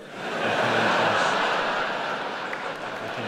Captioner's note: laughs